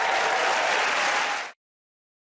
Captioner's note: cheers and applause